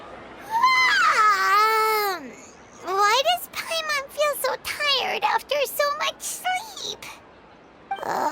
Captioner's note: yawn